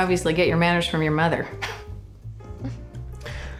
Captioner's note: chuckles